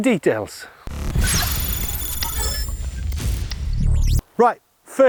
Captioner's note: electronic chittering